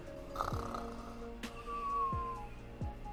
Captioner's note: snoring